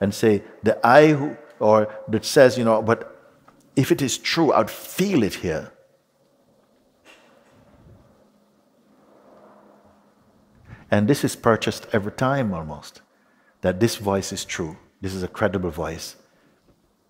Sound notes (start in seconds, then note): none